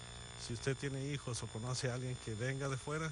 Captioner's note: speaking spanish